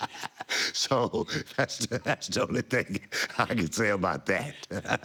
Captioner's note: laugh